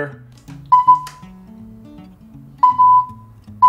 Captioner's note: beeping